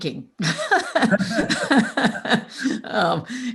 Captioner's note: laughs